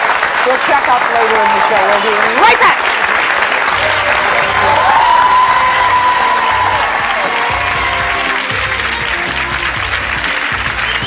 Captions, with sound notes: We'll check up later in the show we'll be right back. (audience cheers)